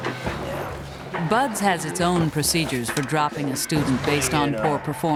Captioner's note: voiceover